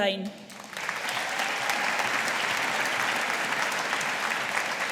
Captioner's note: audience applauding